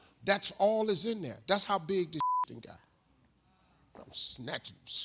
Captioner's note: beep